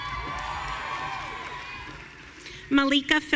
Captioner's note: audience cheering